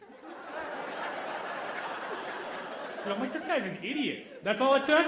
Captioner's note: audience laughing